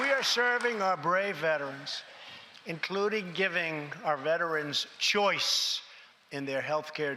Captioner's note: applause